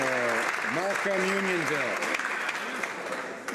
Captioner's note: some Applause